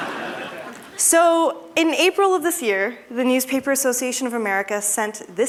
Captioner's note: laughter